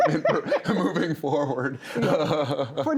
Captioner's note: laughs